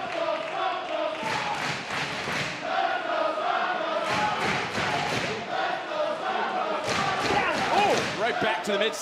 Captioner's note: crowd chanting